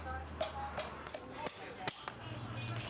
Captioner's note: people chatting indistinctly